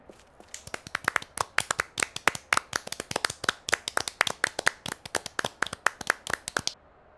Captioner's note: applause